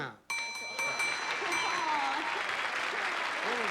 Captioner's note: bell ringing